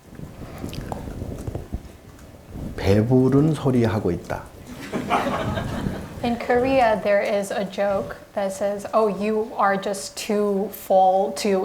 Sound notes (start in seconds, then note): 4.6 audience laughing